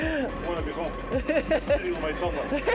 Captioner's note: laughs